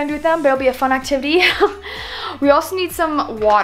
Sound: laughs

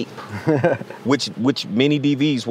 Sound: laughs

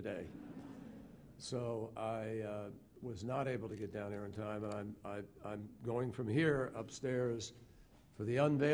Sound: laughter

